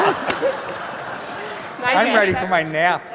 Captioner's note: laughter